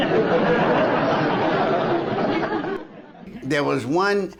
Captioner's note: audience chuckles